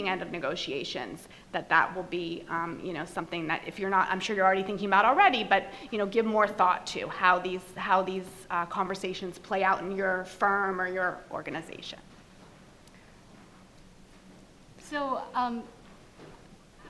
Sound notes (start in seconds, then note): none